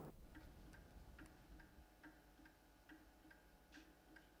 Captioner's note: clock ticking